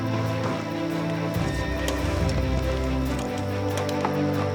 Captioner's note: horse whinnying